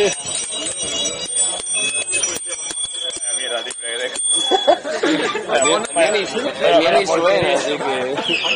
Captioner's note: laughs